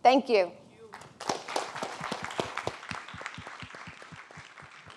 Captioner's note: audience applauding